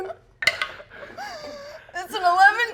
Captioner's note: dice rolling